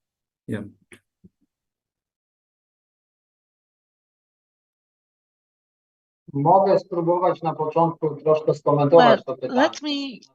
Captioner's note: speaking foreign language